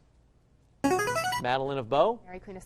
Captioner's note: chiming